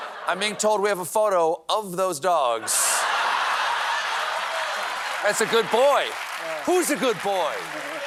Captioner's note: laughter